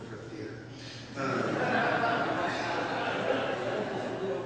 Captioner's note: laughter